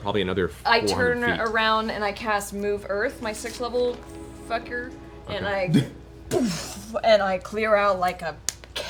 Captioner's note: boof